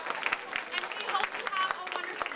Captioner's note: applause